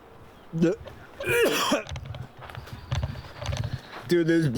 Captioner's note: heaving